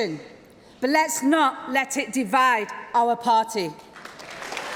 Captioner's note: applause